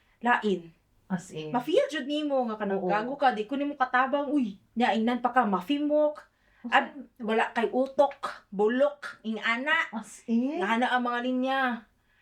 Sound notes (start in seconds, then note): 6.0 arabic